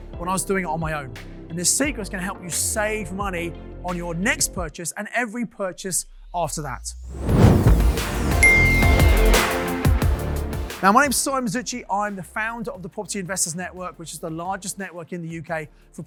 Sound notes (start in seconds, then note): 7.2 upbeat music; 8.4 bell dings